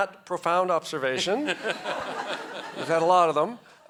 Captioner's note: audience laughs